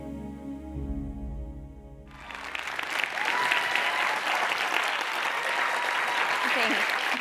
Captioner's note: applause